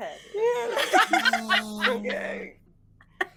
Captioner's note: all laughing